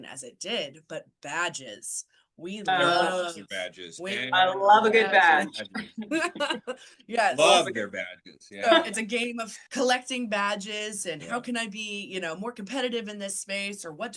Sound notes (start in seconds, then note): 5.7 laughter